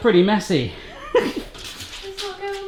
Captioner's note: laughs